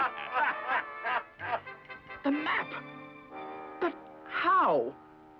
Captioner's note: laughter